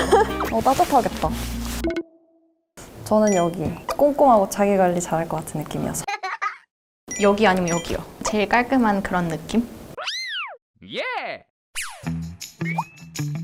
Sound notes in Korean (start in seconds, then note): 6.1 헤헤